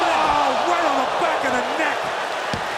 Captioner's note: audience cheers